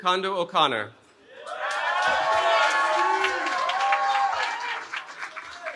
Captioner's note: cheering